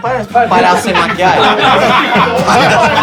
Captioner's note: risos